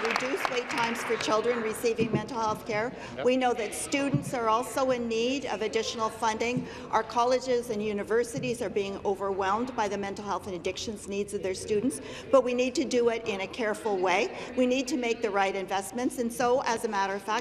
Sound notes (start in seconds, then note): 0.0 applause